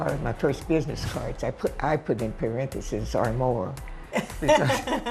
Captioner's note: laughs